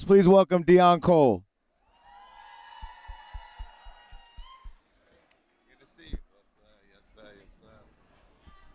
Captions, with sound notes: Please welcome Deon Cole. [CHEERING] Good to see you. - Yes, sir. Yes, sir. Yes, sir.